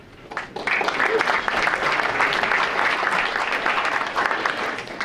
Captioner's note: audience applauding